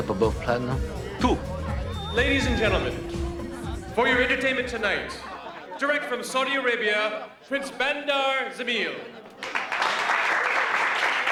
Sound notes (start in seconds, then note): 0.0 dance music playing; 3.6 laughter, indistinct conversations